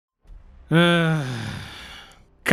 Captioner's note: sigh